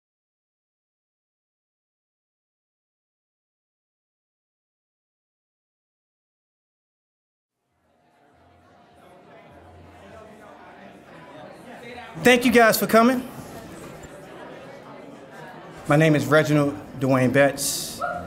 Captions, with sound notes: (attendees chattering) - Thank you guys for coming. (attendees chattering) My name is Reginald Dwayne Betts.